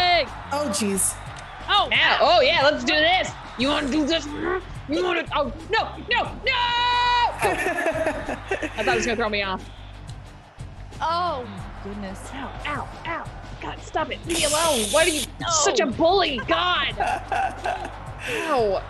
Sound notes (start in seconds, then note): 7.4 laugh